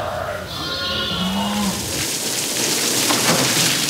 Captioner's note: bleating of sheep and lambs